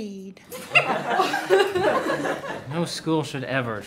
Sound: class laughing

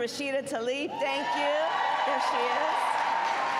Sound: applause

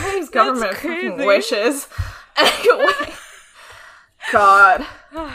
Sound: laughs

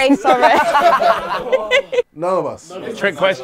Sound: people laughing

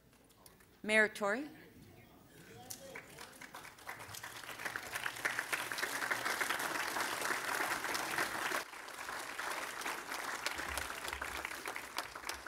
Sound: applause

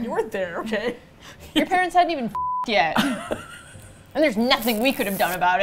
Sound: laughs

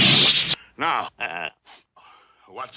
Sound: laughs

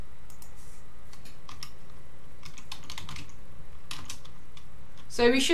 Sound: keyboard clicking

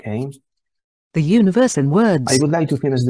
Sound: voice-over

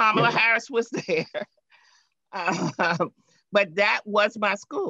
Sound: laughing

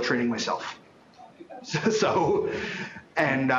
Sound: chuckles

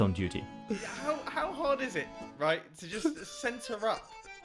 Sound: laughing

